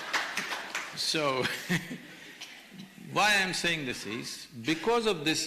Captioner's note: laughter/Applause; laughs